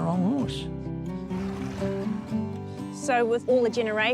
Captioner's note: horse snorts